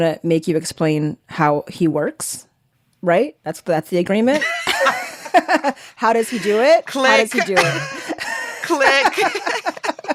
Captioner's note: laughter